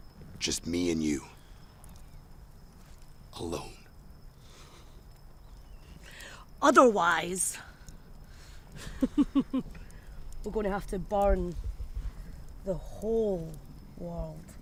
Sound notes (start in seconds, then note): 8.8 laughter